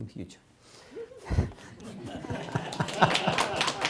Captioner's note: laughter, applause